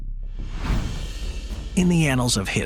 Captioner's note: suspenseful music; image whooshes